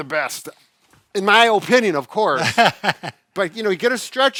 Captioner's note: laughs